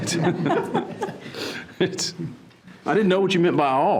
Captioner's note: participants laughing